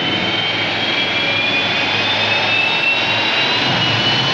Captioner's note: motores gemem